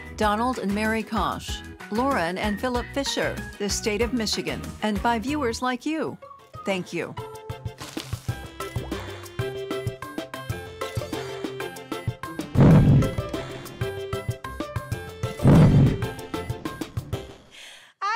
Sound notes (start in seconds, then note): 7.7 gentle upbeat music; 12.7 lion roaring